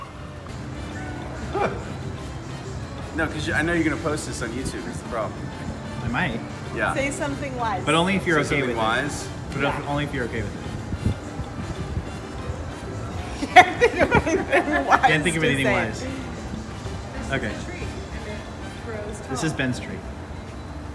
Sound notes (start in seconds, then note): 0.1 light music; 13.0 laughs